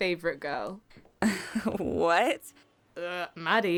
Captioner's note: awkward laugh